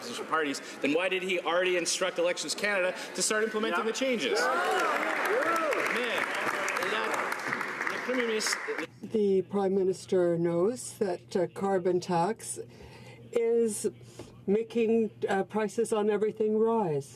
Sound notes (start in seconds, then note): 10.0 some Applause